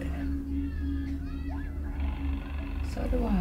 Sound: school children outside apartment getting louder

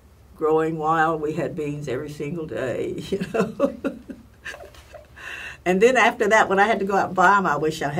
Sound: laugh

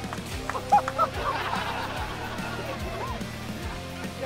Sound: laughter

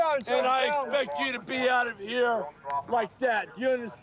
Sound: snap

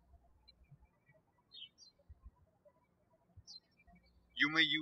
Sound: birds chirping

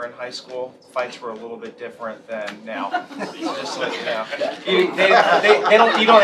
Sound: laughter

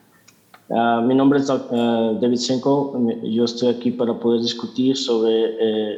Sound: translator speaking in Spanish

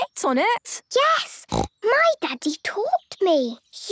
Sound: snorts

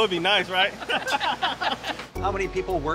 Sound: laughing; upbeat ambient music

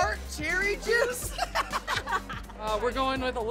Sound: giggles

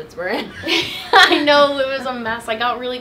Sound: laughs

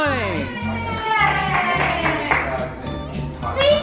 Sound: cheering

